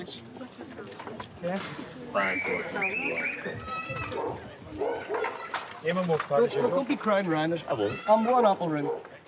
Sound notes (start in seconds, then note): 2.0 background chatter; 2.0 children scream